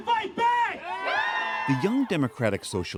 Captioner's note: cheering